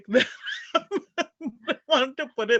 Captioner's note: laugh